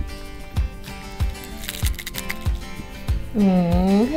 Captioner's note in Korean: 바스러지는 소리